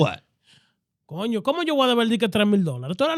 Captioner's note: speaking In Foreign Language